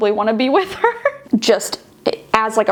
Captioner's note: laughing